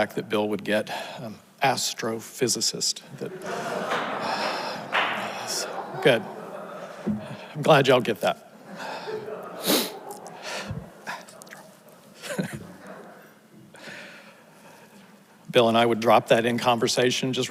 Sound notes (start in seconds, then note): 3.1 audience laughs; 3.3 sighs; 8.5 audience laughs; 9.6 sniffles; 12.3 laughs